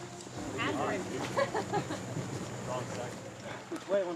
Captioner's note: laughs